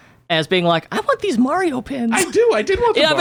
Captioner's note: laughs